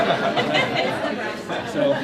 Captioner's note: laughter